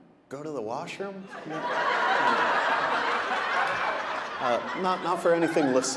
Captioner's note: audience laughing